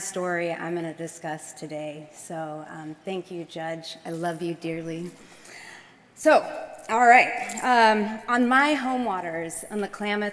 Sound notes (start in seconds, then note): none